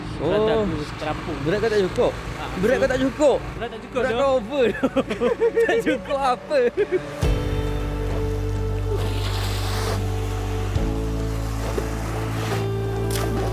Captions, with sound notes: Owh. - That's why it was hard for me to go deeper. You were not heavy enough to sink? But you're overweight. [laugh] I don't think that's a fair statement. [laugh]